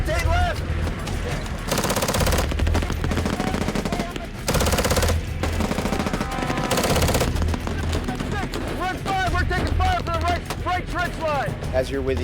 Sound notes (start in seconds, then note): 1.6 automatic gunfire; 8.6 marine on radio